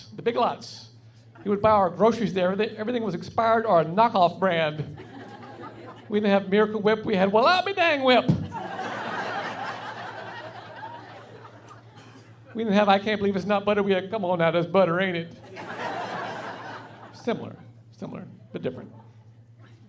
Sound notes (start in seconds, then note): 5.0 laughing; 8.5 laughing; 15.5 laughing